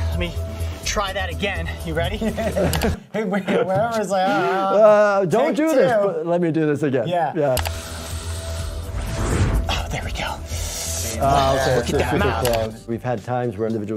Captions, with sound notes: Let me try that again. You ready? (both laughing) We obviously are... Like take two. - Let me do this again. - Yeah. - Yeah. (snake hissing) Oh there we go. - Oh, okay. We've had times where an individual's like,